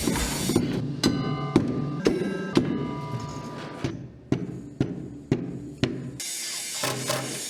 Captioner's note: banging